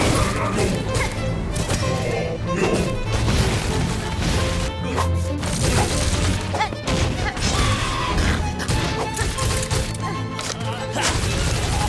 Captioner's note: thuds and grunts